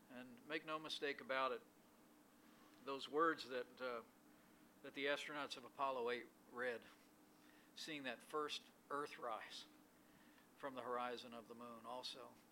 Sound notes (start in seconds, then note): none